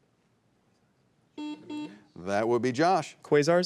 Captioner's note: students whispering; buzzer buzzing